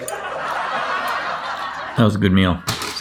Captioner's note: laughter